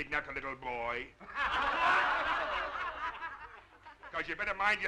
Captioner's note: crowd laughing